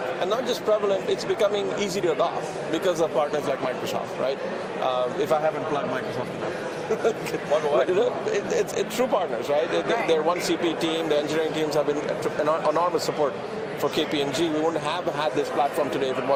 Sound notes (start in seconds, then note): 6.6 laughs